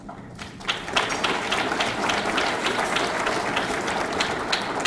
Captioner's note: audience clapping